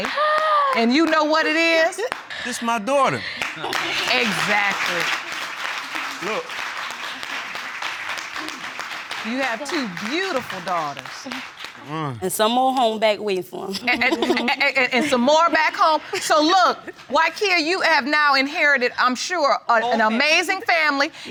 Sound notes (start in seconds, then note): 14.0 all laughing